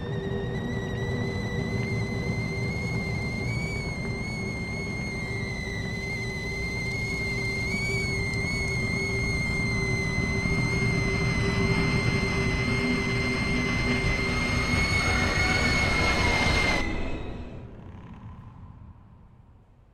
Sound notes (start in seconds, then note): 0.0 whistling; 2.7 whistling continues; 9.4 whistling, static